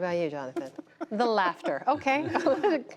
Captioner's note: laughter